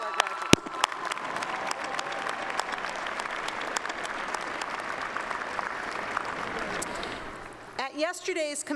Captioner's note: applause